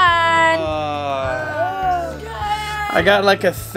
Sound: children and Dad yawning

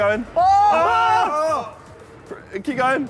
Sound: all cheering

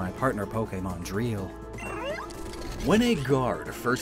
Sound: Lockemon cry

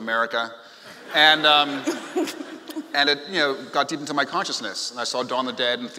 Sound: laughing

